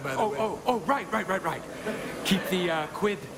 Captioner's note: audience laughs